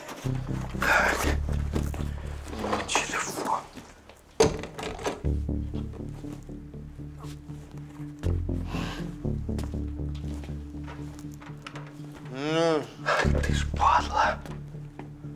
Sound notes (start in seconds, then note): 4.8 suspenseful music; 12.2 moans